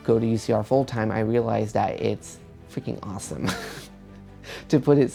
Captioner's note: laughs